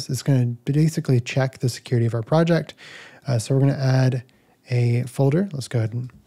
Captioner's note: none